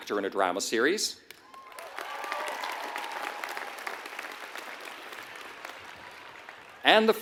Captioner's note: applause